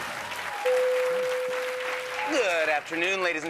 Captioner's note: cheers and applause; bell dings